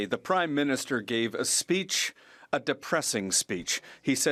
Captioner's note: speaking French